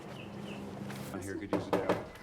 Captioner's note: knocking on door